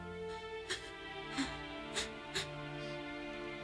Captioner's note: sobbing